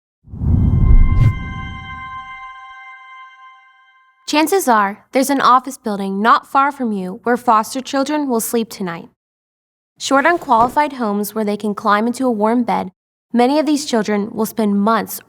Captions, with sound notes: (text whooshes) (bright music) - Chances are there's an office building not far from you where foster children will sleep tonight. Short, unqualified homes where they can climb into a warm bed. Many of these children will spend months